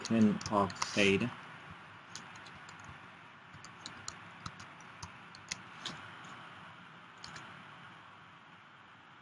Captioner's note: typing Sounds